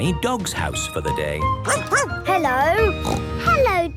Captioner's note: barking; snorting